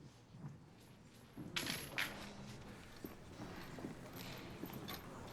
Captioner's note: shackles jingling